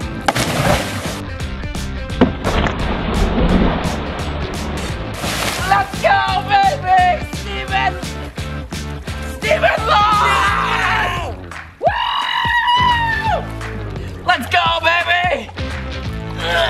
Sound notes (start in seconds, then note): 0.2 water splashing; 1.8 slow motion water splashing; 11.9 cheers